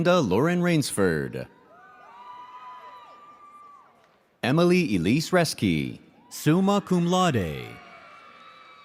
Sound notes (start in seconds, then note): 1.6 audience cheers